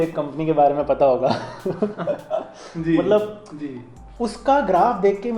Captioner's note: laughs